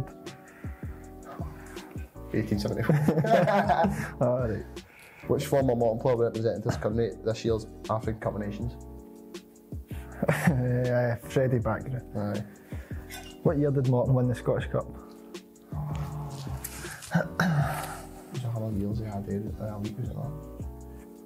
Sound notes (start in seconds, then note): 2.7 both laugh